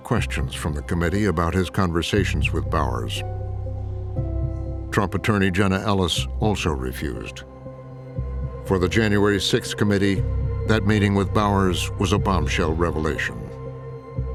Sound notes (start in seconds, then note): none